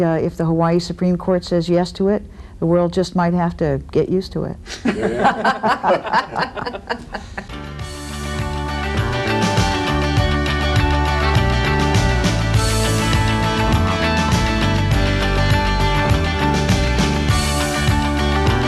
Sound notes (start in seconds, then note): 4.7 laughter; 7.8 upbeat music